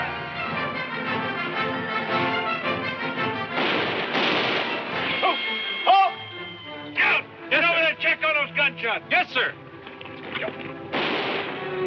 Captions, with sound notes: (marching music) (guns firing) - Ho, halt! - Scouts, get over there and check on those gunshots. - Yes. sir.